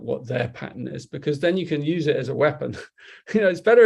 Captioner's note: chuckles